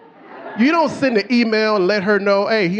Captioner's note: audience laughing